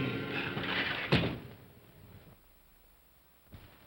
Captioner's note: window slides shut